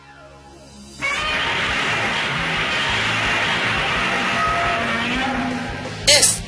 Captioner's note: Godzilla's roar